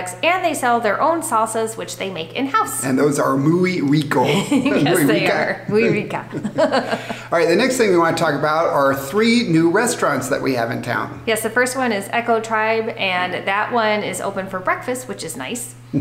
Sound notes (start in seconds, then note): 4.2 both laughing; 4.2 laughing